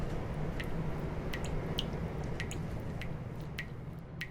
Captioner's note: water dripping